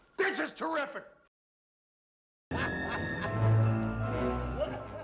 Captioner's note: ghost of xmas past laughing